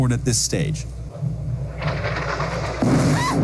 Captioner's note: jet fighter rumbles in the background; explosion